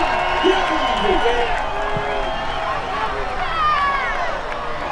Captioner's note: crowd cheering